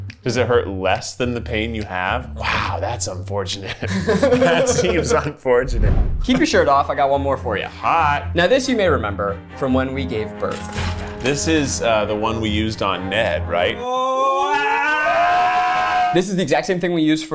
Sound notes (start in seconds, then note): 13.8 screaming